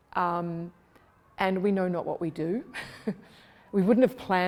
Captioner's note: laughs